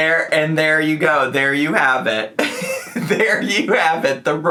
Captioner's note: laughs